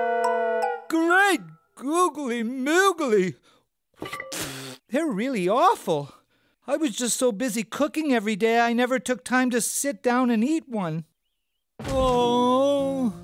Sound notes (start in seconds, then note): 4.3 spitting; 11.1 moaning